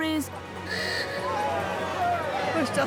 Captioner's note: cheering